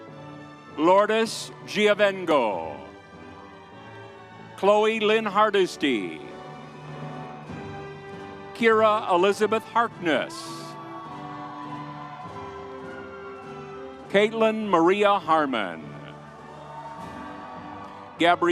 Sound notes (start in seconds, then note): 2.7 soft music continues; 6.7 soft music continues; 9.6 audience cheers; 11.1 soft music continues; 16.2 soft music continues